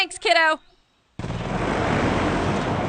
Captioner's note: engine roars